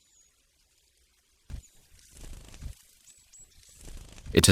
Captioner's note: szum wiatru, trzepot skrzydeł